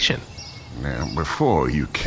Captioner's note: emphatically, emotions rising